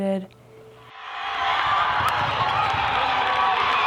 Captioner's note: cheering